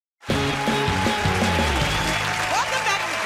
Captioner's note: cheers and applause